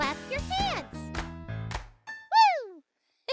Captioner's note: Marvie clapping